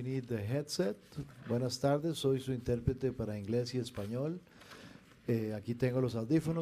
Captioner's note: speaking in foreign language